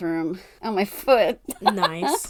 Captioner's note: laughs